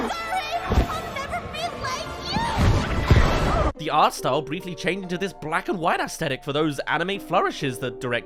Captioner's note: crash